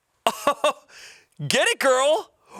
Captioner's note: chuckling